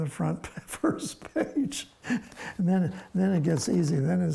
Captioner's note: laughs